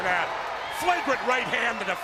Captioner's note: crowd cheering